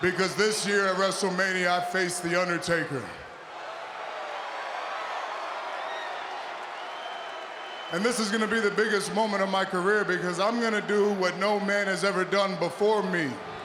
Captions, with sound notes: Because this year at WrestleMania, I face the Undertaker. (audience cheers) And this is gonna be the biggest moment of my career because I'm gonna do what no man has ever done before me.